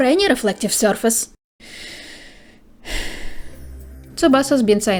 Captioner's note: deep, calming breath